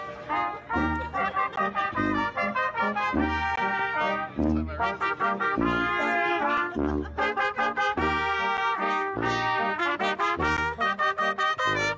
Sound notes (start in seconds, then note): 0.4 band members laughing; 0.6 trumpet music